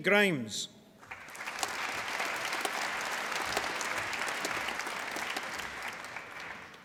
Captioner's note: applause